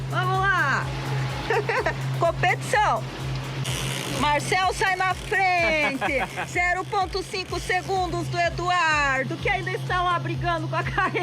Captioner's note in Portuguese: risadas